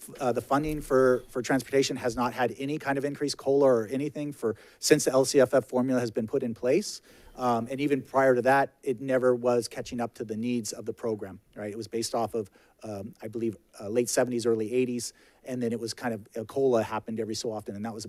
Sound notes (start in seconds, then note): none